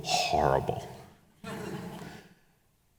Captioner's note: audience chuckles